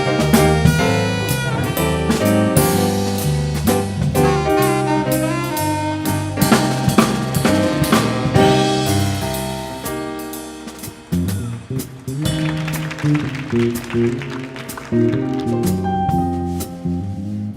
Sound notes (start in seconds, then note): 10.8 audience applauding